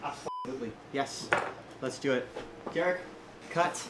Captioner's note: beep